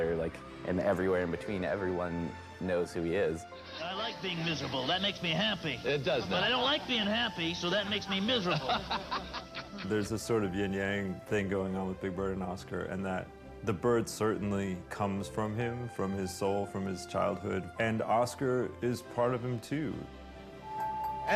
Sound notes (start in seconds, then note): 8.0 man laughing